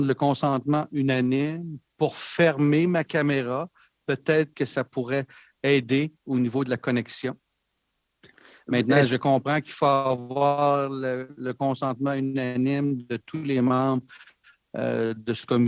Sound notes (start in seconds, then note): 5.2 speaking French